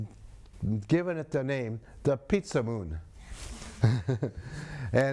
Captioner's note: laughs